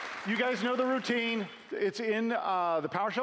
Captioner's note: applause